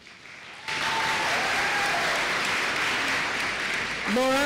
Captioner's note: applause